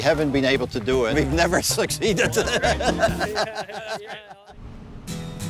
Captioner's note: laughs